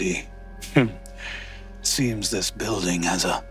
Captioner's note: chuckles